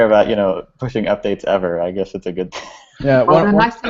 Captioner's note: laughs